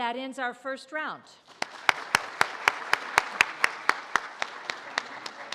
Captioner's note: audience applauds